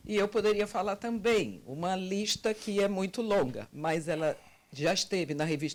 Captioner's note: translator speaking Portuguese